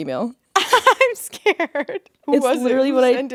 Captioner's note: laughing